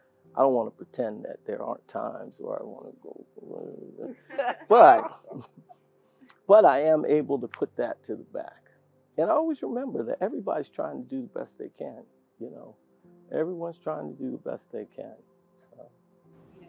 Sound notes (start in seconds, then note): 4.0 laugh